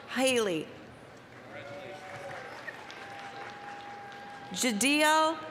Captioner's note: applause, cheering